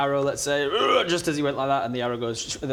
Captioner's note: rrrgh!